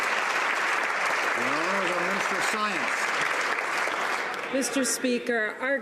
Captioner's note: some Applause